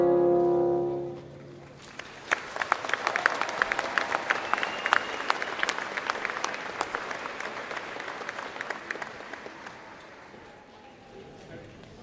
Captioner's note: applause